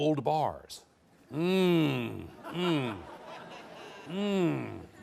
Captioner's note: audience laughing